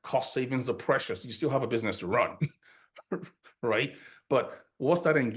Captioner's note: chuckles